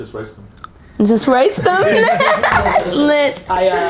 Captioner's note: laughs